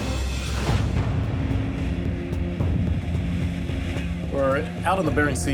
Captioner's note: boat motor running